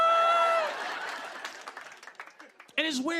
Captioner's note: laughter and applause